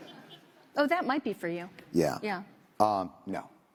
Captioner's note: laughter